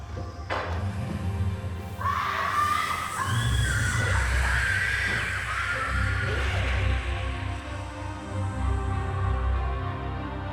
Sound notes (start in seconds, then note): 1.9 screaming; 4.8 dramatic music